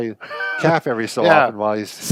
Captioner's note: laughs